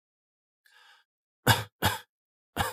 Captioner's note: cough cough cough